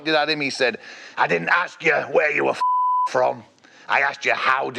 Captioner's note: beep